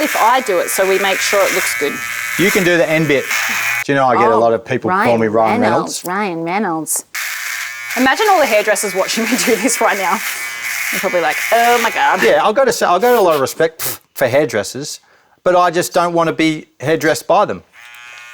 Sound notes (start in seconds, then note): 0.0 shaver buzzing; 7.1 mocking